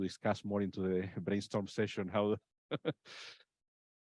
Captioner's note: laughs